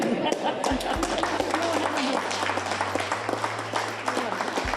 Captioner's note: everyone applauds